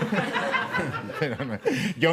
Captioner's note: laughter